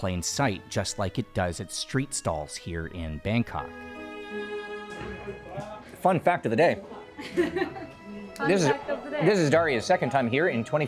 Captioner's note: laughing